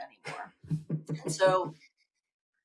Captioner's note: chuckling